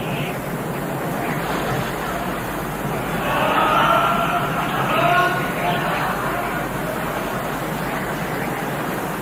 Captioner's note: ghostly Voices; wind Sounds